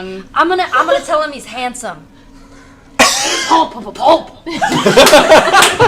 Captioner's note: speaks Undercommon; laughter